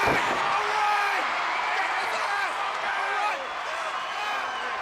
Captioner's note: crowd cheers